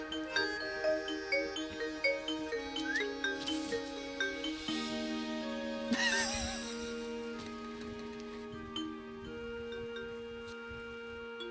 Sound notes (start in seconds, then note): 2.7 whistles; 5.9 laughs; 9.1 fun music